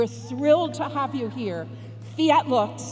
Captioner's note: speaks foreign language